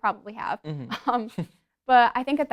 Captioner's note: both chuckle